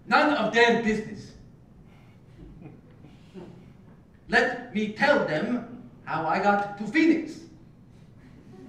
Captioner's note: laugh; laugh